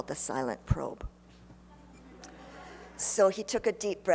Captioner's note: laughter